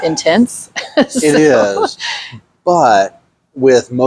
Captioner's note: laughs